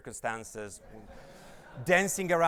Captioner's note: audience laughs